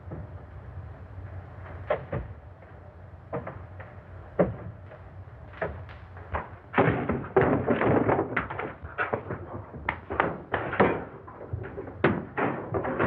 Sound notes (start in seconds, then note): 11.3 chair clattering